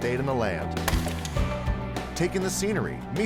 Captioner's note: wood cracks